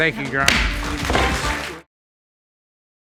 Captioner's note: gavel bangs